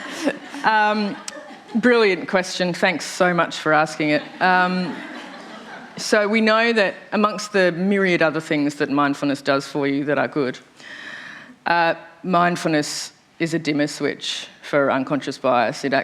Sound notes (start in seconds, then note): 4.6 laughter